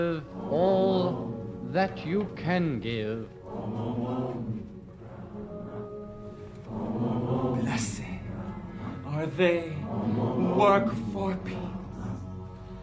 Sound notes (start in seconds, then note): 3.1 chanting